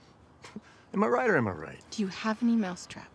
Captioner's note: scoffs